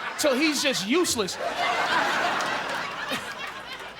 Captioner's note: audience laughing